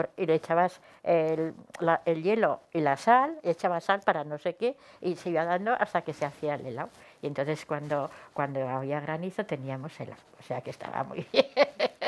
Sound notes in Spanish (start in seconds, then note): 11.2 risas